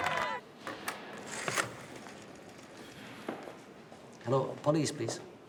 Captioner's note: rotary spins